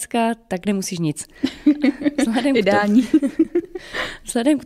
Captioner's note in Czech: velký smích